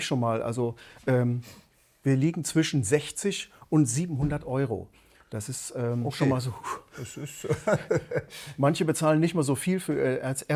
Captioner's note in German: gelächter